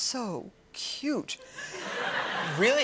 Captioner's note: laughter